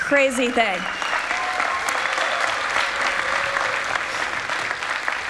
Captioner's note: people clapping